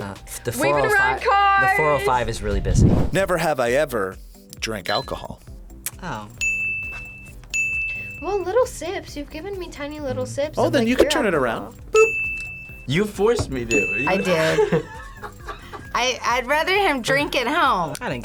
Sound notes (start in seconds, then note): 6.4 bell rings; 14.0 React laughs